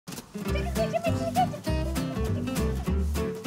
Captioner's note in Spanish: imita cacareo